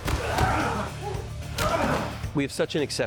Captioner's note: grunting